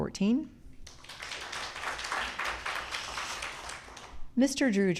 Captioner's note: audience clapping